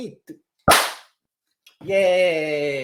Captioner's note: pop